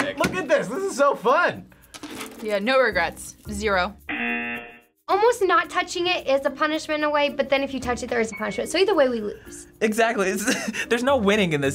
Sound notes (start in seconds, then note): 4.1 buzzer